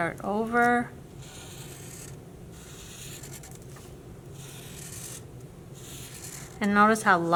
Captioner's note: scratching marker